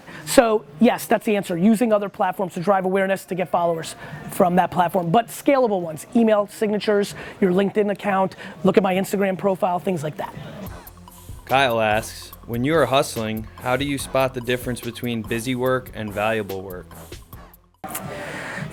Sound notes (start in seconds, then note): 11.6 voiceover